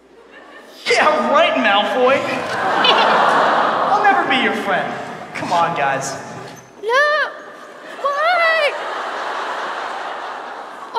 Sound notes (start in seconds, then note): 2.0 audience laughs pityingly; 7.5 audience laughs